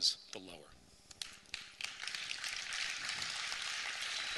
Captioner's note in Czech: potlesk